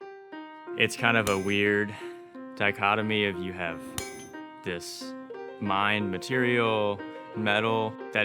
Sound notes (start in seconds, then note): 0.6 soft music; 1.2 metal clinking; 3.9 metal clinking